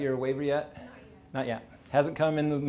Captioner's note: person talking quietly